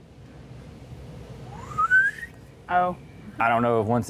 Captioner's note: whistles